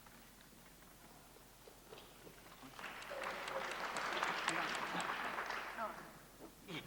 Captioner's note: applause